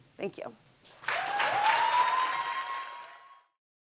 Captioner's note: audience cheering and clapping